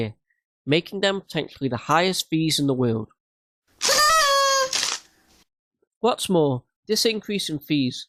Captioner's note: party popper thing